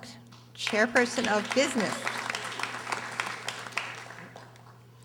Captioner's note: audience applauding